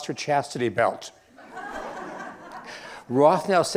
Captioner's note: laughter